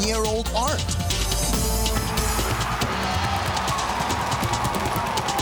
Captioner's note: cheers and applause